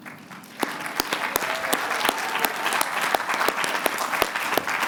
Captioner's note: applause